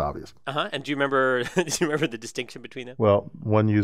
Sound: laugh

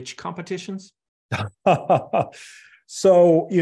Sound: laughs

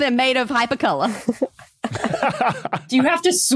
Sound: group laughs

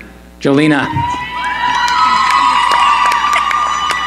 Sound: cheering

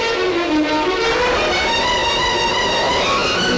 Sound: thunder

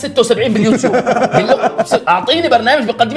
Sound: laughs

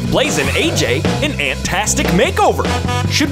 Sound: honking

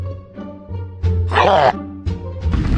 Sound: growl

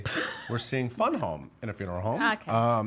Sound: laughing

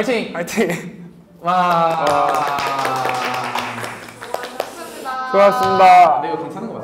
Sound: applause

